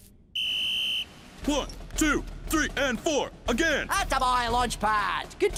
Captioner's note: whistle shrieks